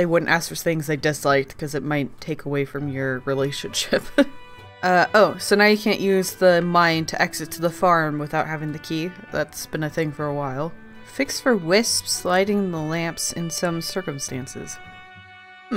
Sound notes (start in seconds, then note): 4.1 laughs